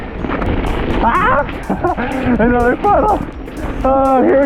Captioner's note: laughs